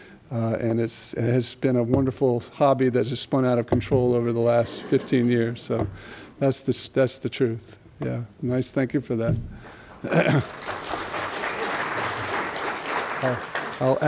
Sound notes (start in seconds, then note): 4.6 laughter; 12.4 applause